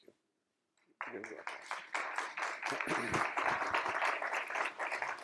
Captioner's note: applause